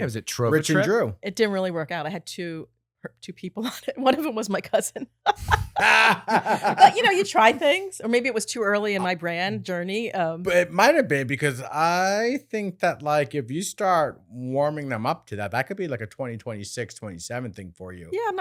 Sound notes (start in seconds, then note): 5.2 laughing